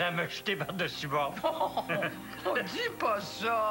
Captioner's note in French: Rires